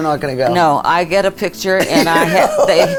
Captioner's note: laughs